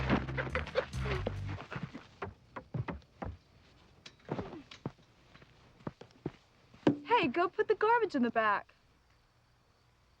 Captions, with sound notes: (Jim groaning) (Doc laughing) - Hey, go put the garbage in the back.